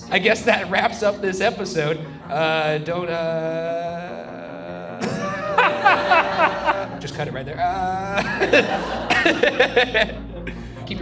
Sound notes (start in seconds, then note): 5.0 Shane and audience laugh; 7.7 Shane and Ryan laugh